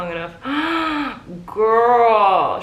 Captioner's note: gasping